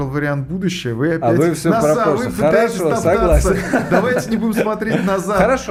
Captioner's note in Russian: смех